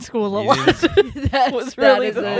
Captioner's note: laughing